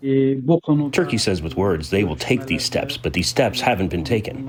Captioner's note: through translator